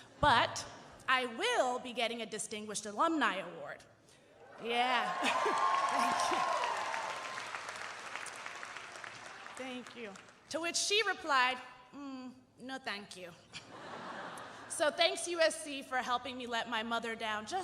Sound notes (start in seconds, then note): 4.9 audience cheering and applauding